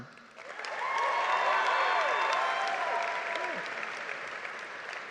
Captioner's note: cheers and applause